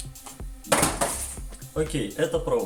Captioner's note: sounds of falling boxes